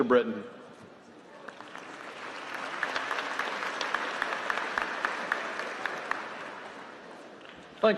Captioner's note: applause